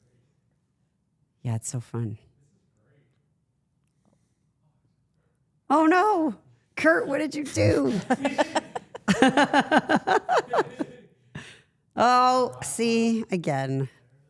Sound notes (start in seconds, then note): 7.5 everyone laughs